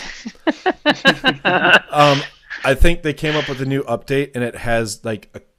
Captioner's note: laughter